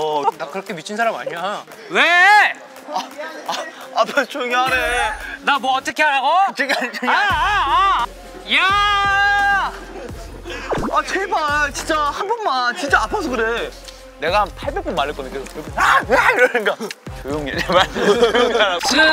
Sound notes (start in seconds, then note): 8.5 his meaningless shouts continued; 17.6 haha